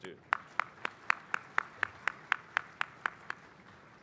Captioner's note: applause